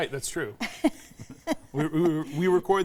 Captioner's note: laughing